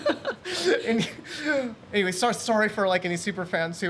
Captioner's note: laughs